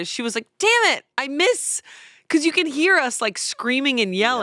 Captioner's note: none